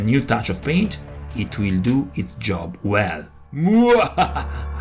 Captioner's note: satanic laugh